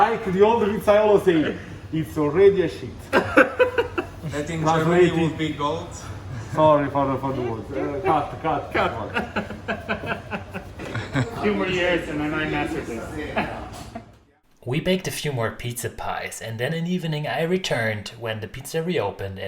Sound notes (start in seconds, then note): 3.1 host laughing; 9.3 host laughing